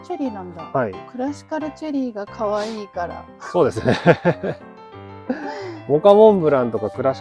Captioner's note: laughs